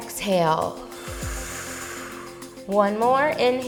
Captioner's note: exhales